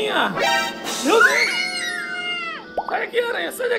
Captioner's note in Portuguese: som de suspense; Gritos